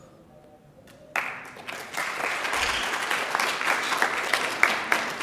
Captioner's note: audience applauding